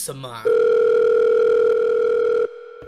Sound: phone ringing

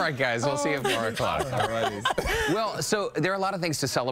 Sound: laughter

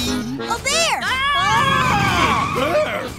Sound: screaming

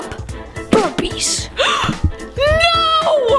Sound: exclaiming

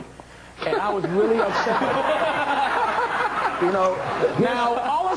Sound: crowd laughing

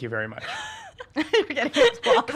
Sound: laughing

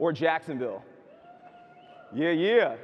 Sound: audience hoots

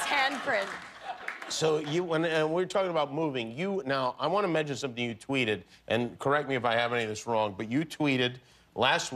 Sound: applause; laughter

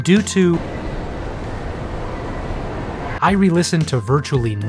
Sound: hellworld noise

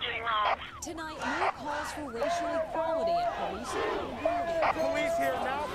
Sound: residents protesting

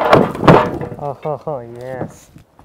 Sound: loud bang

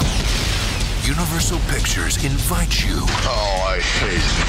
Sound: voiceover

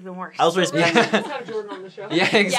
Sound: laughing

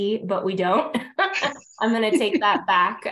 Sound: chuckles

